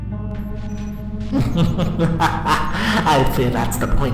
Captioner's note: laughter